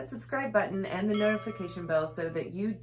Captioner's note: ding